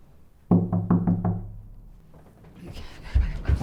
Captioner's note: knocking on door